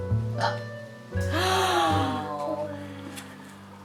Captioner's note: gasping